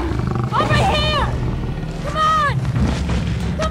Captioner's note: Roaring Continues